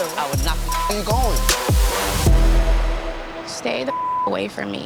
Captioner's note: beep; beep